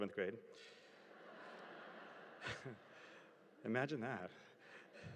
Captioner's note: audience chuckling